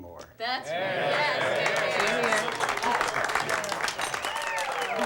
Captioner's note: everyone applauding